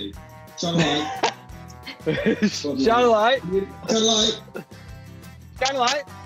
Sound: laughing

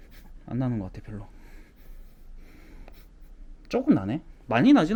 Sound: sniffing

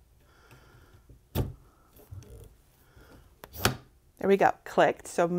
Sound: lamp clicks

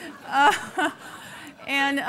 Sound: laughing

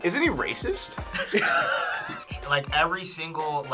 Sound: laughs

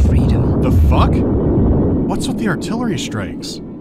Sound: baboom

